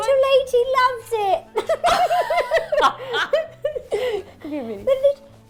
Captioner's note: both laughing